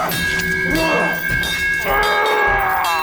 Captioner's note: cries of pain